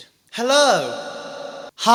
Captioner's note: echoing